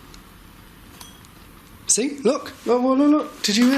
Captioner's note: clinking